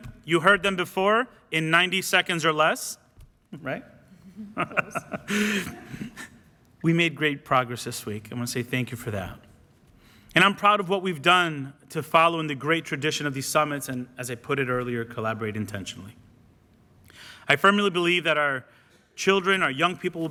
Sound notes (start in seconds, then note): 4.2 laughs